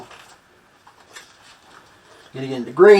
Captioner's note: flipping pages